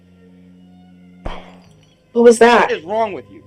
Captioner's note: glass shattering